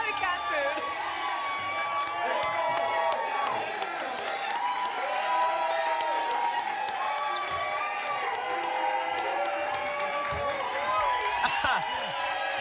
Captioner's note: applause and cheering; chuckles; applause and cheering cont